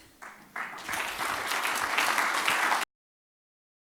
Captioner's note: audience applause